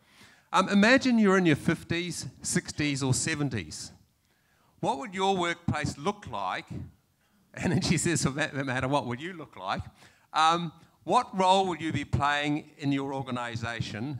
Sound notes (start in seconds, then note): none